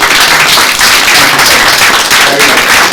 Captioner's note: applauding